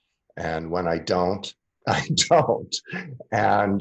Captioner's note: laughs